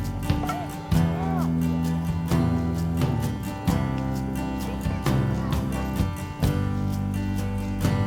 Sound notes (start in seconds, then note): 1.9 background chattering